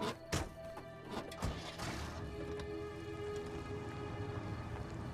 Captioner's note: engine starting